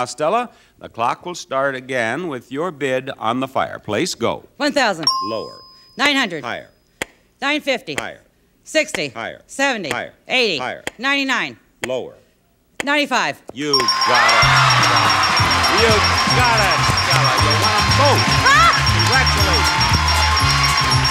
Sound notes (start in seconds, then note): 14.2 bells dinging; 14.7 audience cheering